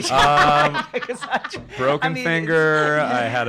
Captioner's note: laughs